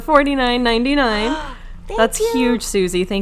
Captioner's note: gasping